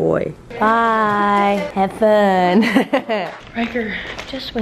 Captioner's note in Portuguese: risos